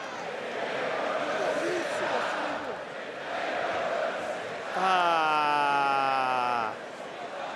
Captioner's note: applause